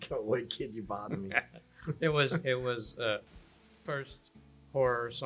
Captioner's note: laughs